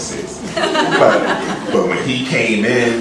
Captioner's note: laughter